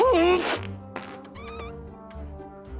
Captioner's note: flatulence